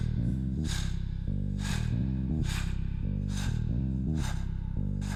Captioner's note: heavy breathing